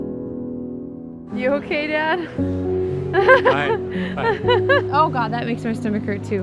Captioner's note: laughs